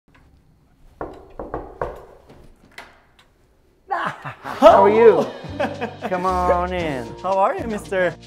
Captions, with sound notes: (Knock, knock) – Ah-ha-ha! How are you? – Hoo! He-he-he! – Come on in! – How are you, mister?